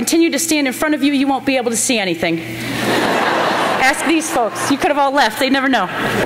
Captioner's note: laughter; laughter